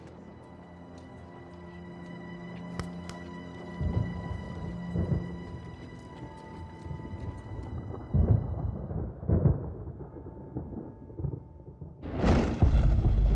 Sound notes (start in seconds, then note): 0.1 suspenseful music; 3.1 thunder rumbling; 11.7 thunderclap